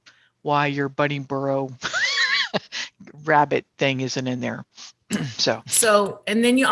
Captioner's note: laughs